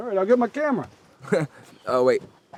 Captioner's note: David laughs